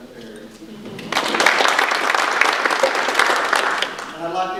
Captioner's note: audience applause